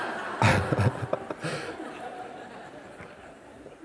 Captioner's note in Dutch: gelach